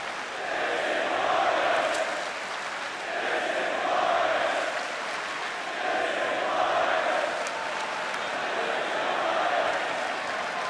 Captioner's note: crowd cheering